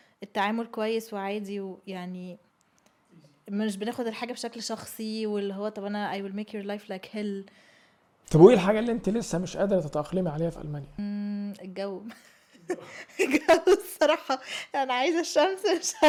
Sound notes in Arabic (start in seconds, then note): 12.6 ضحك